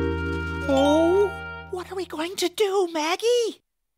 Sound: whispering

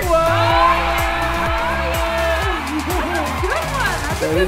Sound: crowd cheering

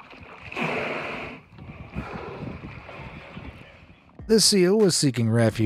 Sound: blowhole snorting

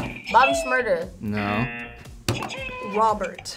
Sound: buzzer rings; buzzer

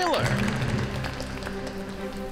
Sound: audience applauds; triumphant music

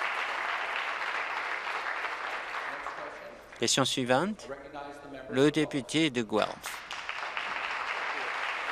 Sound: applause

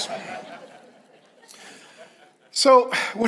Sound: congregation laughs

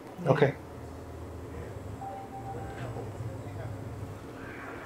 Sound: bell dings

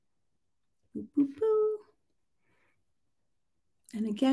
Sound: hums

